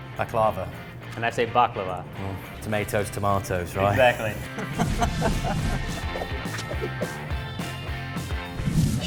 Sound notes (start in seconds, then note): 4.3 laughter; 6.6 upbeat music